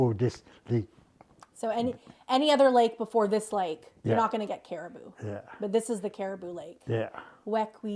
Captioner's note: speaking Indigenous LANGUAGE